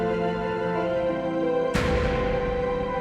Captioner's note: door slams shut